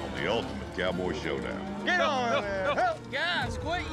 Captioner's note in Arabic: صراخ